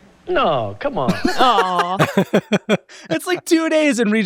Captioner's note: laugh